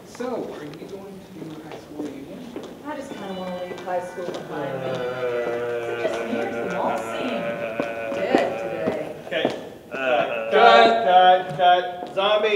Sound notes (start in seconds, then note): 4.2 growling